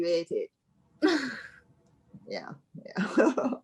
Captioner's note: laughing